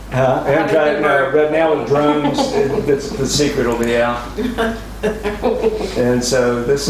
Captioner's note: laughter